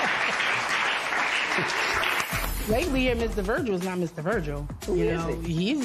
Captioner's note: applause